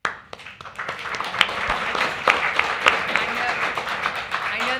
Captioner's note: applause